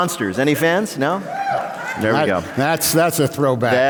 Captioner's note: cheer